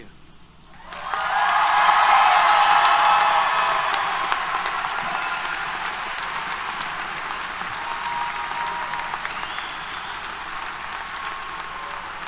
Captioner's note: applause, Cheers